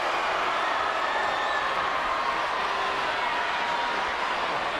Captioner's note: crowd cheering